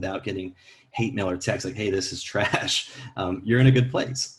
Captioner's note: laughs